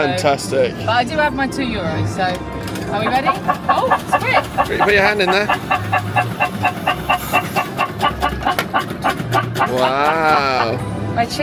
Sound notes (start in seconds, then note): 3.1 bird squawking